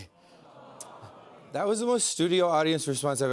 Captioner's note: audience groans